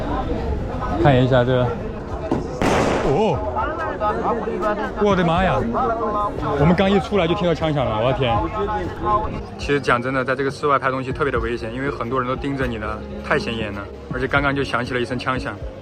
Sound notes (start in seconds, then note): 2.6 gunfire